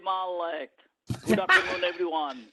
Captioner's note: laughter